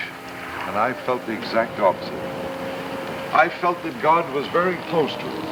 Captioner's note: laughs